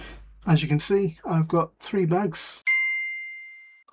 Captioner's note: ping noise